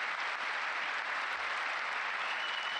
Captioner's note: applause